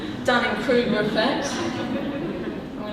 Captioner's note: audience laughing